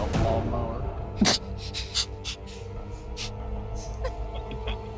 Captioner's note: snickers